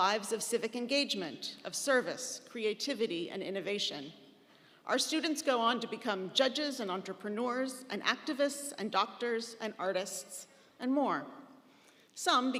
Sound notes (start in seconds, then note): none